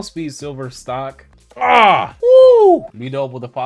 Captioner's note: grunts